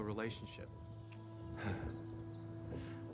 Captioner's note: chuckles